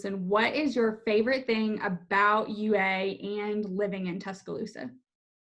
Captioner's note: none